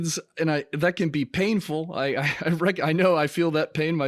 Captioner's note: laughs